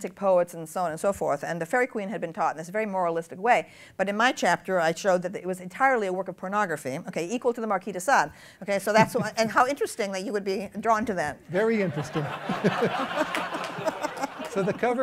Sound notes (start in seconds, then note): 8.9 laughs; 11.8 laughter